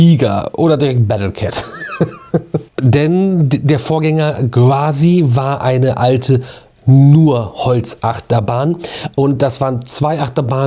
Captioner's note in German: gelächter